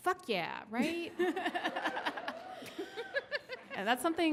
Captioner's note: laughs